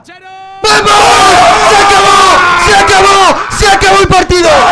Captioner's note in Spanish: grita mucho